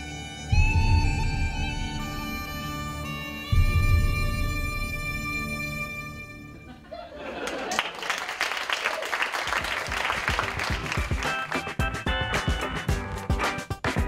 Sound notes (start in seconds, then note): 6.6 laughter and applause; 11.3 upbeat music